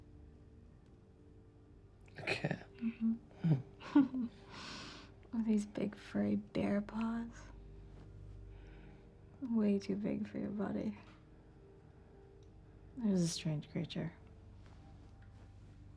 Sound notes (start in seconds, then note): 3.8 chuckles